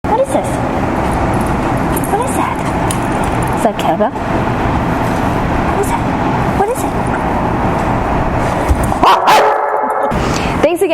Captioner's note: barking